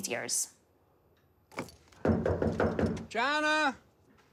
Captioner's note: knock on door